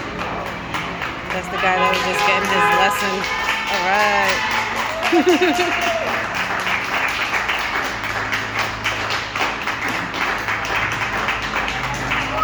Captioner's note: applause